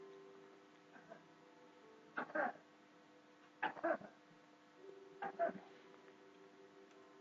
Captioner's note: neighbour coughing in background